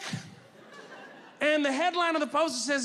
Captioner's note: audience laughing